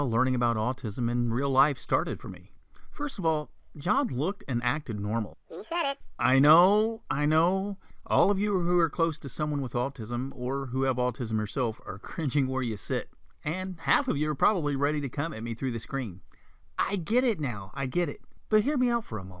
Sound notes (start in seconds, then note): 5.2 funny voice; 6.2 man's voice